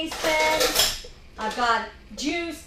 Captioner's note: utensils rattling